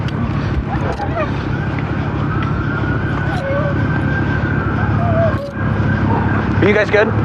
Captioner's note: dogog whihinining